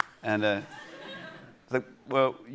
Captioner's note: laughter